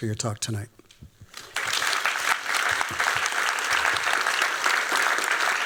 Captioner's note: applause